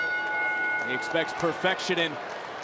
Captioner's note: bell rings